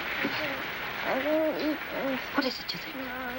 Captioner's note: moaning